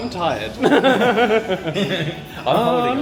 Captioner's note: laughs